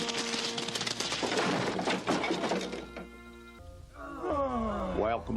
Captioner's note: cargo rattling; campers groaning